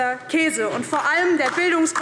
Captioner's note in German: Beifall DIE LINKE